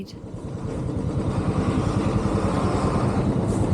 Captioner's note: motorbike engine